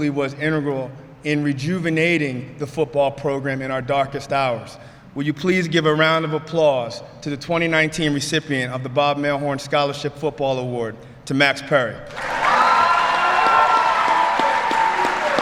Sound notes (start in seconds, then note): 12.0 applause